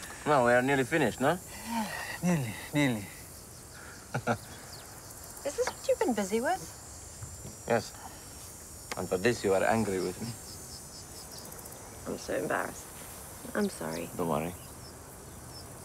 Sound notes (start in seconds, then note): 4.0 chuckles